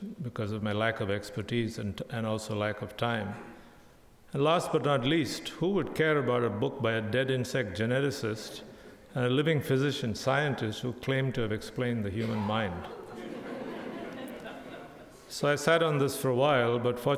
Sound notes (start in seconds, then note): 12.2 crowd laughing